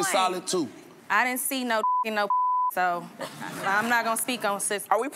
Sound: beep

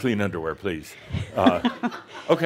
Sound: more chuckles

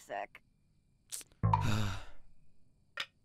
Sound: groan

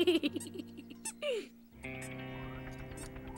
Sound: giggles

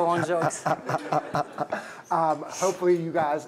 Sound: laughter

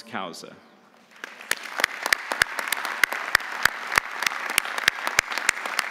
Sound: audience applauding

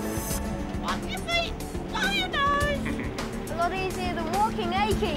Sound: parrot squawking; laughing

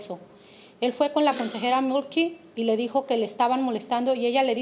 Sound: speaking Spanish

